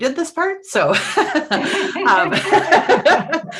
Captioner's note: laughter